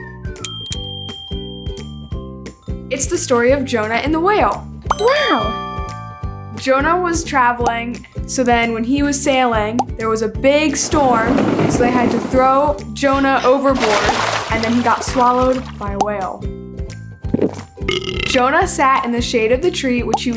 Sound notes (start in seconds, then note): 0.4 bell dings; 5.7 chimes ring; 10.8 thunder crashing; 15.3 water splashes; 16.8 character belches